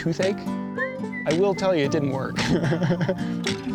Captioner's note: laughing